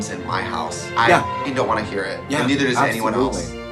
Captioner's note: beep